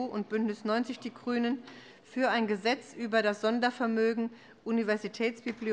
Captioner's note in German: none